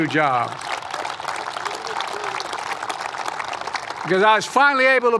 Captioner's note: applause